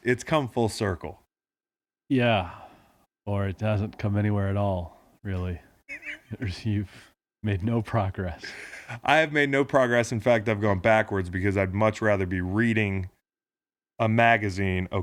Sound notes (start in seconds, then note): 5.7 laughing